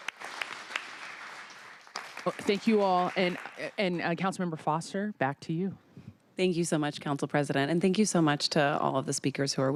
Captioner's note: applause